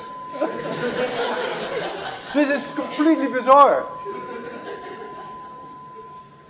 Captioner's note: laughter